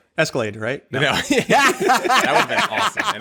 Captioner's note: laughter